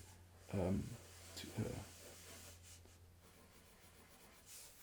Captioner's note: pencil scratching